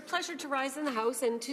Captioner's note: speaking French